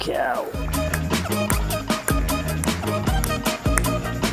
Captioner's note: clicking sounds